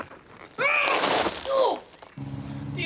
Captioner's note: screaming